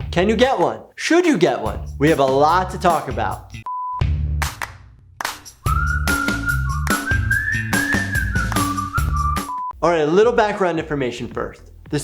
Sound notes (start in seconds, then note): 3.6 test screen beeping; 3.6 upbeat music